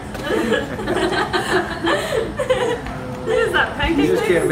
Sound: laughing

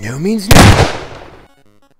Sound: gunshot

